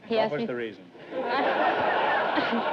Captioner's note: audience laughter